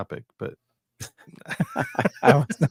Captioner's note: both laughing